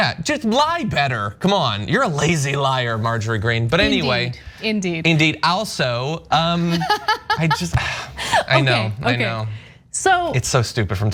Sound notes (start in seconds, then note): 6.7 laugh